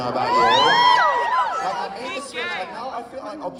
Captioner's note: applause